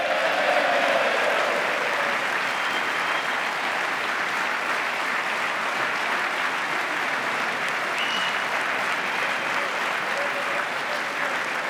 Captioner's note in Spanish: aplauso